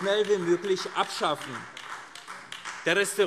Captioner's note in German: Beifall AfD